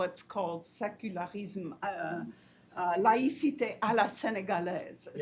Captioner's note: speaks foreign language